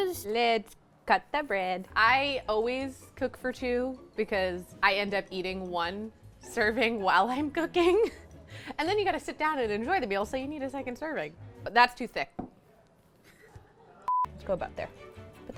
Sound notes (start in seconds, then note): 14.1 beep